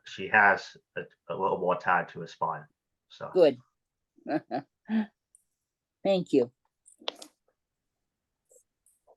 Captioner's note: laughing